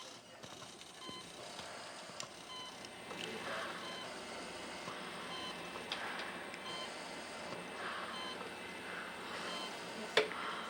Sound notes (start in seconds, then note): 0.1 machines beeping; 4.8 heavy breathing; 4.8 machine beeping